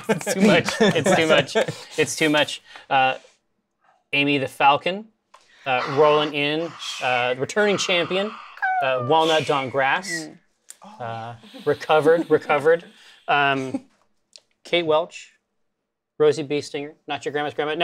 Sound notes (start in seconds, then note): 5.7 softly cheers; 8.6 bird cries; 9.1 whoosh sounds